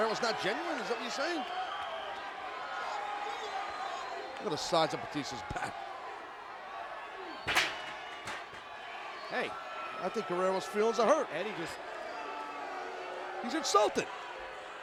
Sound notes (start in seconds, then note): 7.4 chair clunking